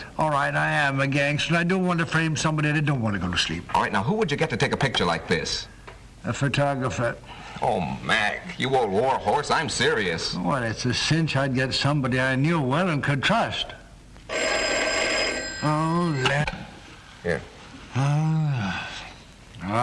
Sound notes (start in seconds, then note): 14.3 telephone rings